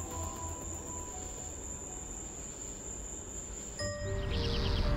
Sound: crickets chirping

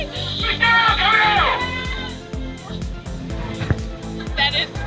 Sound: megaphone chatter

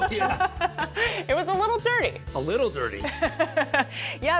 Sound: laughter

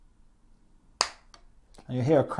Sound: crack

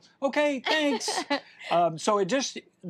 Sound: laughs

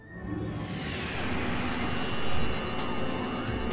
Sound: electric static

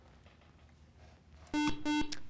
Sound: buzzer

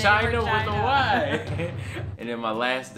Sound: laughing

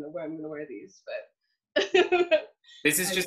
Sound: laughs

